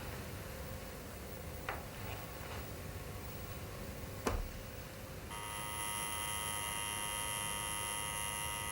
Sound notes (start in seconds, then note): 5.3 buzzing